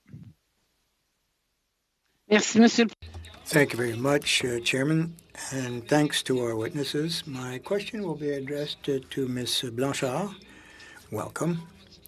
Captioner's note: speaking French